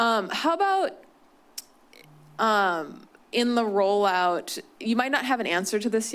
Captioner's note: clicks tongue